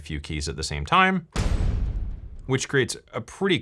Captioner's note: hit sound